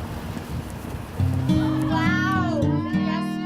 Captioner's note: children chatter and laughter